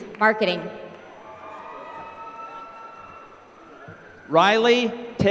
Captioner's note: applause